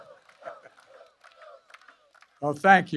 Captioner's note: laughs